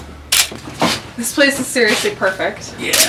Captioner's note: camera clicking